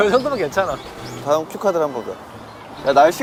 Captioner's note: wind... Swish, swish